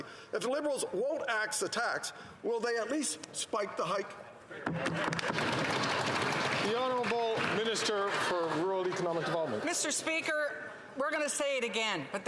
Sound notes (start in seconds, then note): 8.3 some Applause